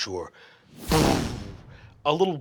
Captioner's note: magical whooshing